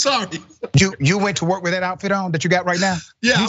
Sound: laugh

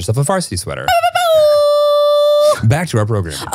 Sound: shouts

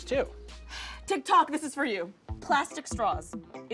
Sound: sighs

